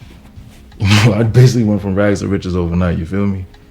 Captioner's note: laughing